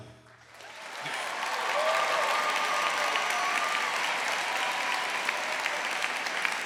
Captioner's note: audience applauding; audience cheering